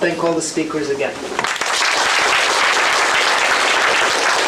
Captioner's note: applause